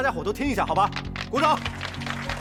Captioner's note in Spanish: Aplausos